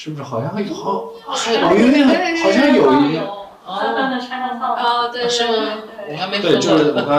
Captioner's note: A lively discussion